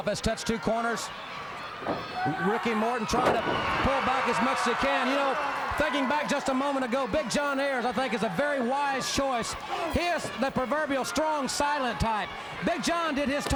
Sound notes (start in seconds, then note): 5.3 crowd cheering